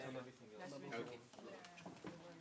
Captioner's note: background chatter